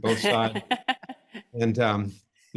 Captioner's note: laugh